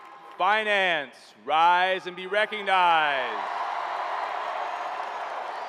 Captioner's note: cheering